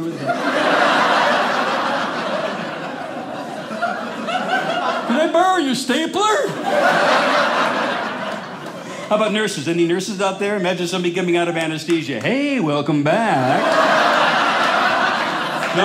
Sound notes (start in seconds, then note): 0.0 audience laughing; 13.2 audience laughing